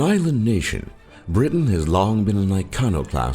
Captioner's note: voiceover